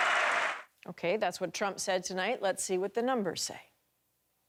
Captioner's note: applause